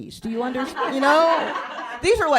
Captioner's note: laughter